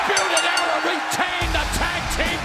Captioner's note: bell ringing